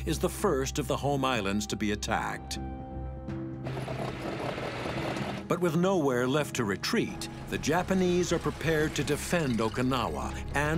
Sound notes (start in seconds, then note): 3.7 tank rumbling